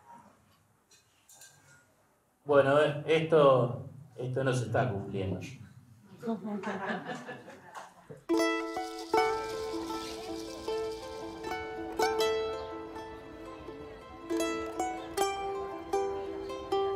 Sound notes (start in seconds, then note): 6.2 laughter; 8.2 charango music